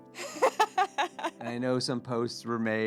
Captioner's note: laughing